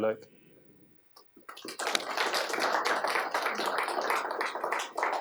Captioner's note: applause